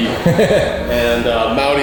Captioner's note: host laughs